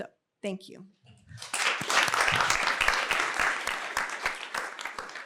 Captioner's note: applause